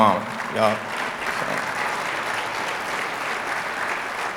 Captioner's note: audience applauding